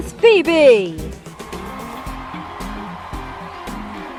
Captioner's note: cheering and applause